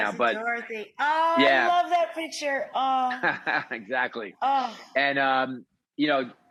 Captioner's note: laughs